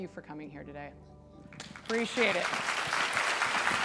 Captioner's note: audience applauds